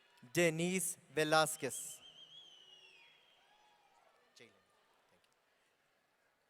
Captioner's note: audience cheering